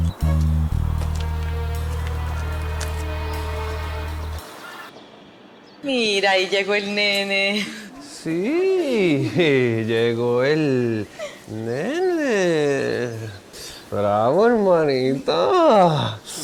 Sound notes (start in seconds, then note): 8.1 in a funny tone